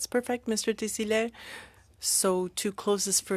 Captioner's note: speaking french